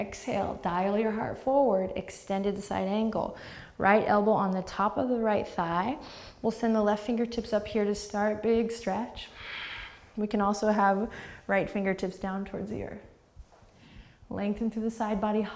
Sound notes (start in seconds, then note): 11.1 deep breath